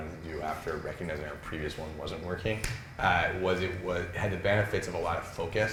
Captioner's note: none